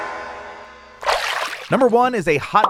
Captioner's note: water splashing